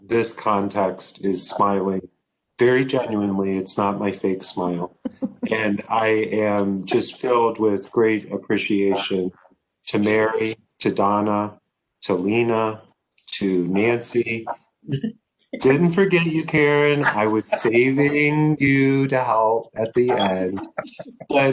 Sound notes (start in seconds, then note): 5.0 laughs